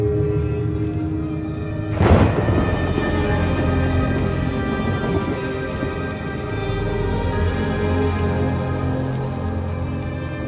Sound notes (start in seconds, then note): 3.0 thunder clap and rain